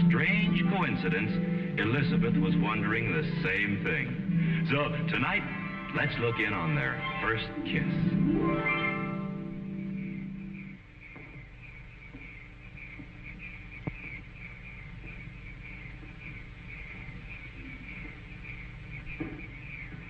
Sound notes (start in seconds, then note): 9.1 crickets chirping; 9.1 harp music